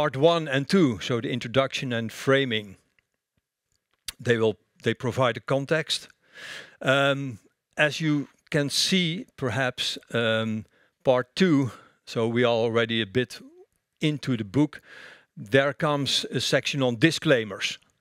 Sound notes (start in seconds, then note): none